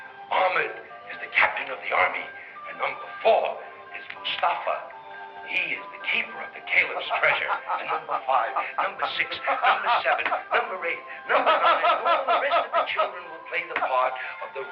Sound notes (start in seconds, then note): 6.8 Arnold laughing loudly